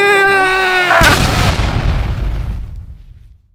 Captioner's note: evil laugh in the background; boom